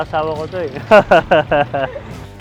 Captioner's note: laughs